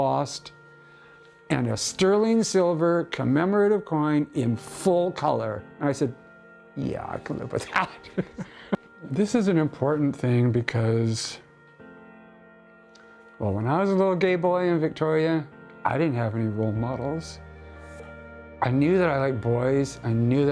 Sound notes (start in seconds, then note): 10.9 chuckling